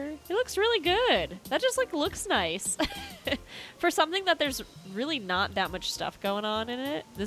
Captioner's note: chuckle